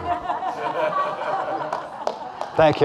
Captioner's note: audience laughing